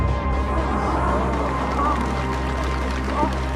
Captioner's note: guests gasp; applause